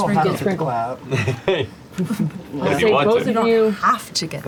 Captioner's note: laughs